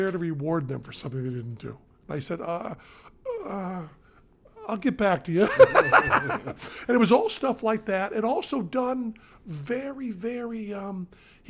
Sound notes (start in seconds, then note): 5.4 laughs